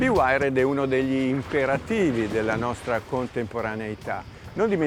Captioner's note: speaking in foreign language